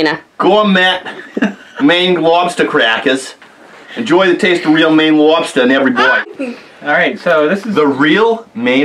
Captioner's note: new England Accent